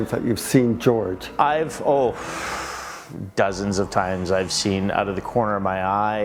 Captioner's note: exhales loudly